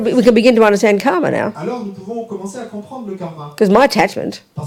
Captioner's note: audience member speaks in French